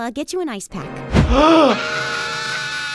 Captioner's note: Kyle screams; gasps